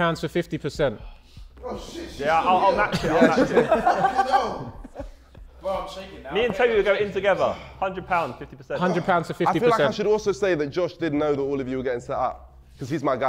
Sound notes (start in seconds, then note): 2.3 Sidemen laughing